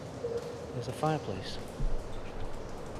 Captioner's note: none